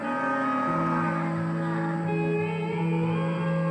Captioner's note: cattle chattering